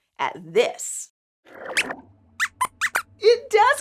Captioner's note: squeaks squeaks